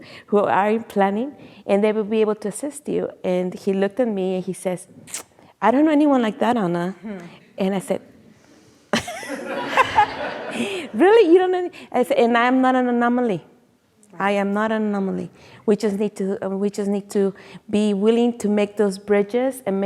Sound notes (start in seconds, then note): 9.0 audience laughing; 9.0 laughs